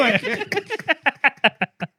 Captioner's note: laughing